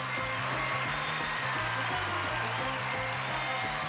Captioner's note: applause